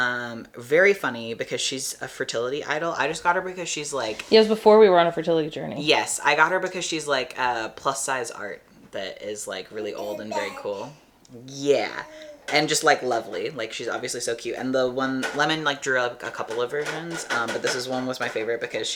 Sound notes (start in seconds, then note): 11.6 baby babble